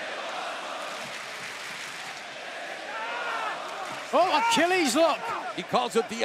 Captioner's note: crowd cheering